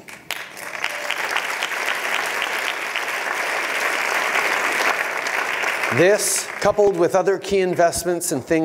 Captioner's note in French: Applaudissements